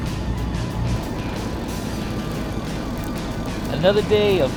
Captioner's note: fishing line whirring